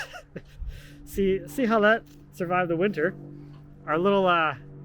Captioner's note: chuckles